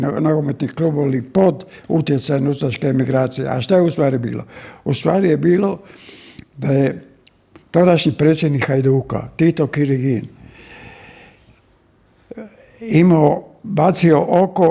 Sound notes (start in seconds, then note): 10.4 sigh